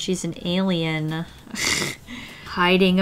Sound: laughs

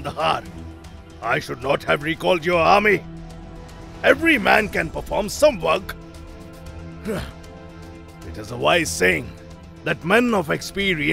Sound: sigh

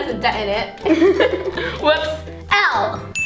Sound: laughs

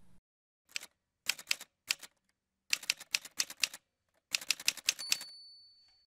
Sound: typewriter sounds

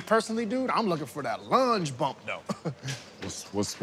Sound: chuckles

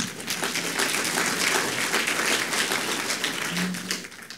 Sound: audience clapping

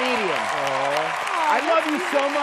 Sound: cheering

